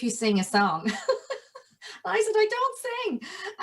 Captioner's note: laughs